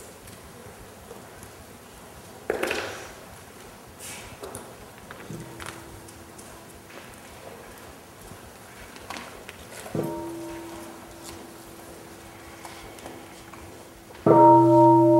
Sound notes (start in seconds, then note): 9.9 half bell